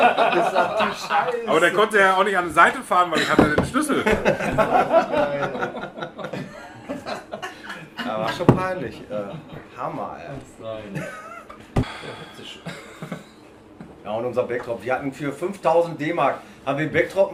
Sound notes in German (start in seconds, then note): 4.0 lachen; 11.9 lachen